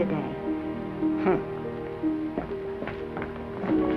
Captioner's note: Granny humphs; dramatic whimsical music